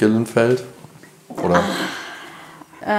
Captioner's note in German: Sie seufzt